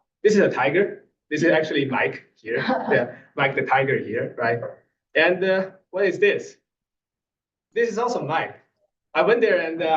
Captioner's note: laugh